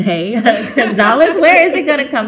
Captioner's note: panel laughing